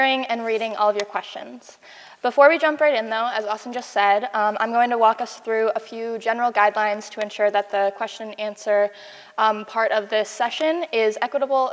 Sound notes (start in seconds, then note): none